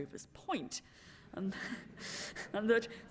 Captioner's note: laughter